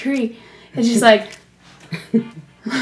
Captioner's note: exhales